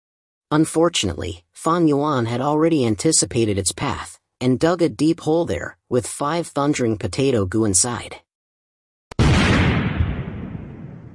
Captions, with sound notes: Unfortunately, Fang Yuan had already anticipated its path, and dug a deep hole there, with five Thundering Potato Gu inside. (Explosion)